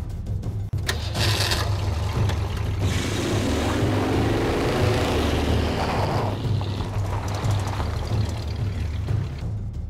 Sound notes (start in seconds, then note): 2.4 engine revving